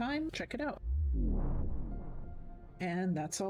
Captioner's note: vwoom